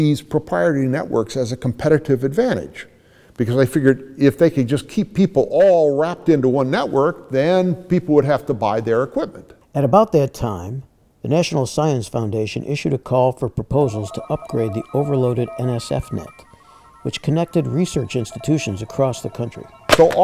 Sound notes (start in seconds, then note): 13.8 telephone noises